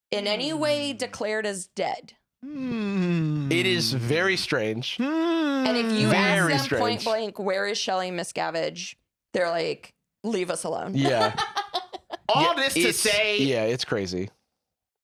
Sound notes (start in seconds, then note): 11.0 laughs